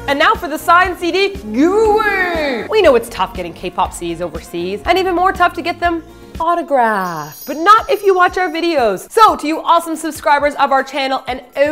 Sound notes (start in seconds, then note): 6.5 twinkling sound